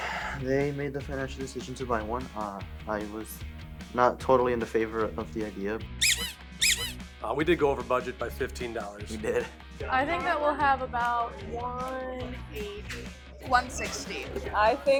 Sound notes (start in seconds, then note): 0.0 sighs; 5.9 rubber chicken squeaking